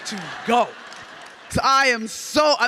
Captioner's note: audience clapping